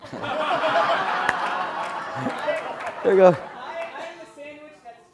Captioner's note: laugh